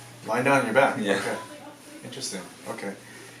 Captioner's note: laughs